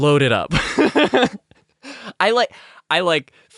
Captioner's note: nervous laugh of shame